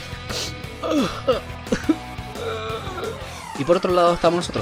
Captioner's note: cries in chilean again